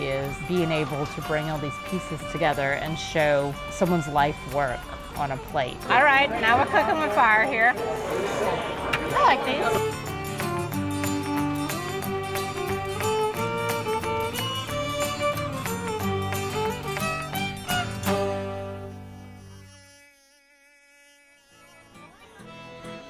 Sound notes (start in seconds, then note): 4.0 bright peppy music; 9.8 people talking in background